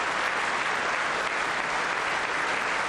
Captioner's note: applause